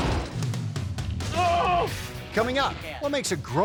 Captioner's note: man yelling